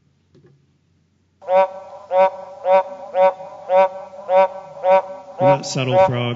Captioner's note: sounds of big Giant Frog calling